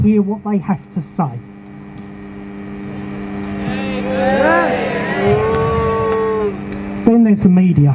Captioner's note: crowd chants shame